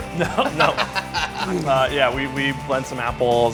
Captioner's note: laughing